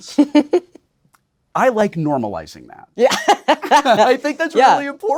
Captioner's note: Blu laughing